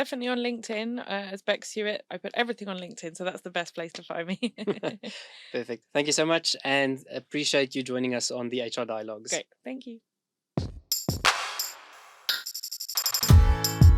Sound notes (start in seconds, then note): 4.3 both laughing; 11.0 upbeat music